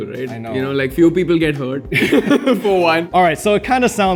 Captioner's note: laughs